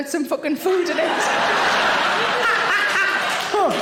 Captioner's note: audience laughing; Sarah cackles